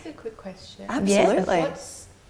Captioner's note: laughing